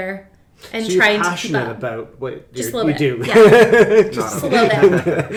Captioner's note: laughs